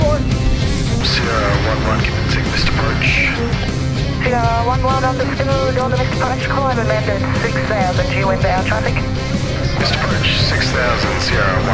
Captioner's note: background ATC chatter